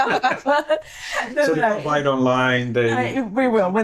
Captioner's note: laughing